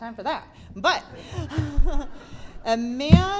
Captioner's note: giggles